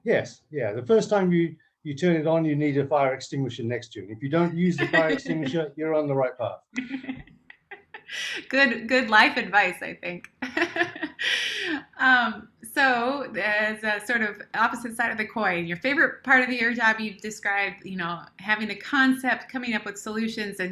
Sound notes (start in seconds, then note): 6.8 laughs; 10.4 laughs